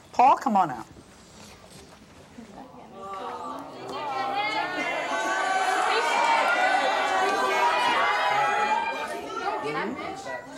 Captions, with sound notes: Paul, come on out. (crowd jeering)